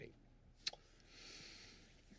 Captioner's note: kisses